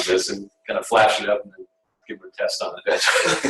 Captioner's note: laughter